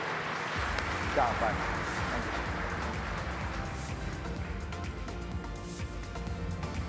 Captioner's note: audience applauding; upbeat music